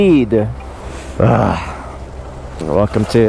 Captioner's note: grunts